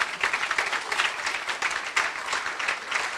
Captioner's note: applause